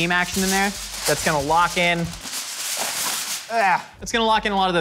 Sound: groans

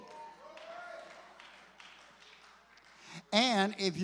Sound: congregation cheers

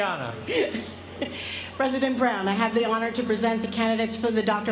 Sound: laugh

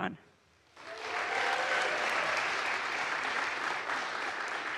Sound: audience applauds

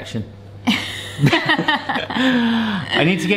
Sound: both laughing

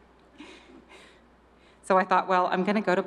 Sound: chuckles

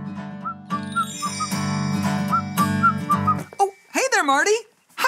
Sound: acoustic music; Mr. Music whistling

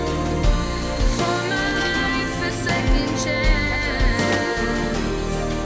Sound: door clattering

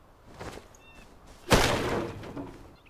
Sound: crash, items breaking

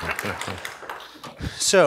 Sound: applause

